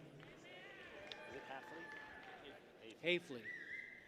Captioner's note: people cheer